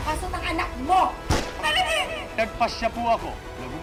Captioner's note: gunshot